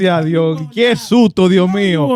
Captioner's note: speaking In Foreign Language